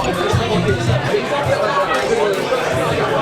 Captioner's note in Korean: 꼴깍 꼴깍